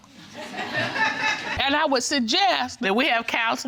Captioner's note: audience laughing